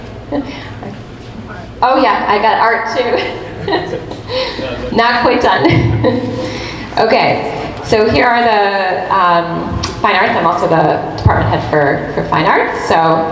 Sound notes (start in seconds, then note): 3.1 laughs; 6.3 laughs